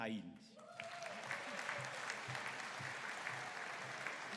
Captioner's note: audience applauding